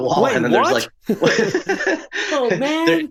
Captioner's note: speakers laugh